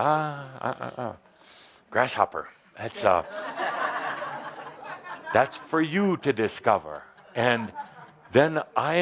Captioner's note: laughter